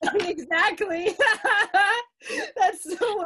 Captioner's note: both laughing